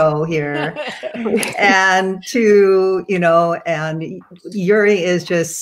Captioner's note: chuckles